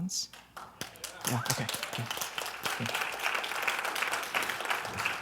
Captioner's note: clapping